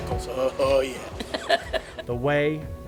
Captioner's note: giggling